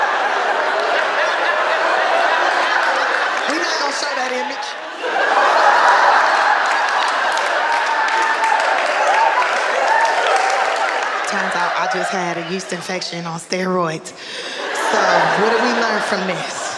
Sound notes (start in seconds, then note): 5.2 audience laughing